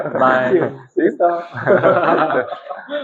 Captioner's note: laughs